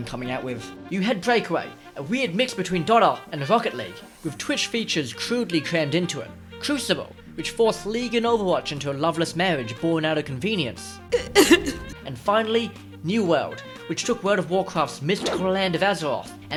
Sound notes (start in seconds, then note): 11.1 sob